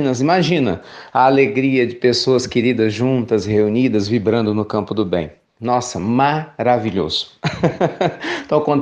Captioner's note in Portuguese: risos